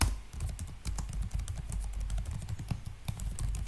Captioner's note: typing noise